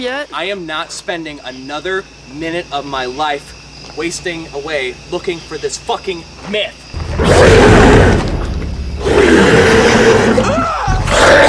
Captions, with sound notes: I am not spending another minute of my life, wasting away, looking for this fucking... Myth!- *intense roars* *screams from being tackled and thrown*